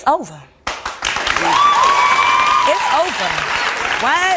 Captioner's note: audience applauds and cheers